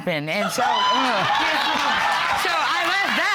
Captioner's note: audience laughing